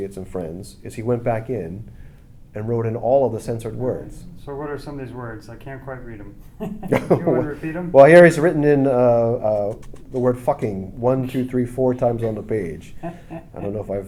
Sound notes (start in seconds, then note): 6.5 laughs